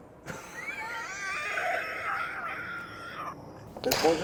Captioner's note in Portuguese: risos